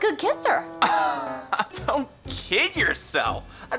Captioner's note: laughs